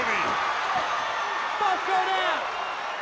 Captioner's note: crowd cheering